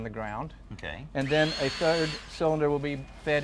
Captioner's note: drill whirring